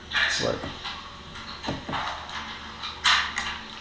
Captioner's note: murmering